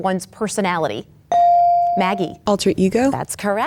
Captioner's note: bell dings